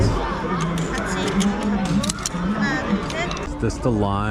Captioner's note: excited kids